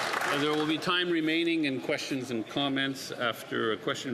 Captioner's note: some applause